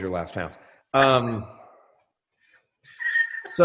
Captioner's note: laughs